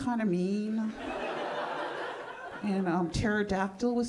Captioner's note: audience laughing